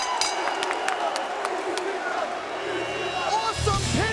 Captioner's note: bell dinging; crowd vocalizing